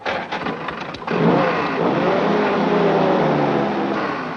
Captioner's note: engine rumbles